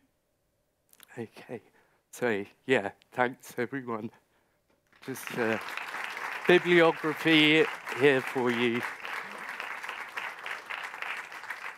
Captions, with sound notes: Okay, so yeah, thanks everyone. (audience applauding) Just bibliography here for you.